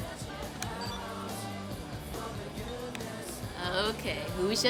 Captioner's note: phone beeps